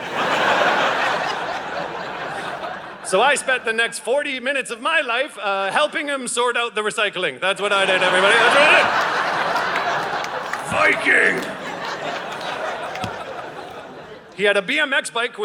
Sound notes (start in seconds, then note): 0.0 audience laughing; 7.7 audience laughing